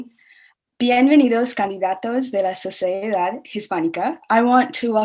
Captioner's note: speaking Spanish